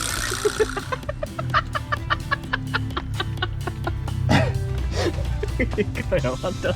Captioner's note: laughs